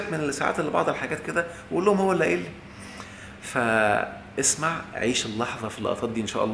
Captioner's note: sarcasm!